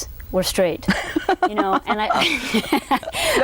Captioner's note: laughs loudly